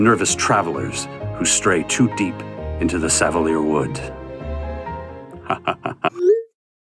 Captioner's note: laughs evilly